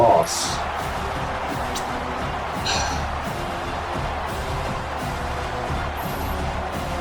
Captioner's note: crowd Noises